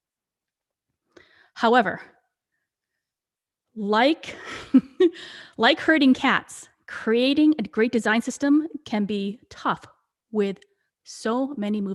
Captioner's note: chuckles